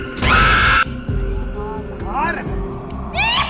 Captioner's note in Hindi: चीखने की आवाज़